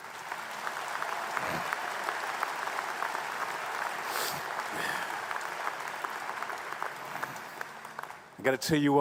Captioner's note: applause